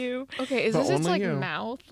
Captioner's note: laughter